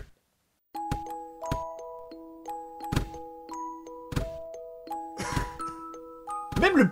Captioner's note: ball bounces heavily